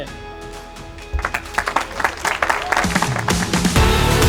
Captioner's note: applause